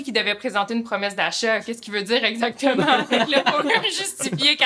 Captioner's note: laughs